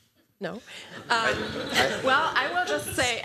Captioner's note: laughter